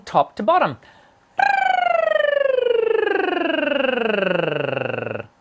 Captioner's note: rolling tongue